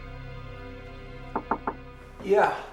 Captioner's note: soft mysterious music continues; knocking on door